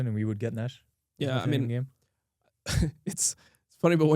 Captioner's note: laughs